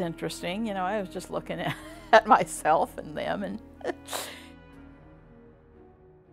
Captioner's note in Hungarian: nevetés